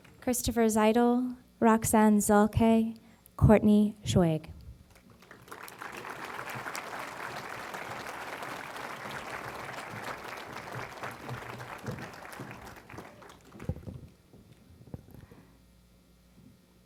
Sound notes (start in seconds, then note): 4.9 applause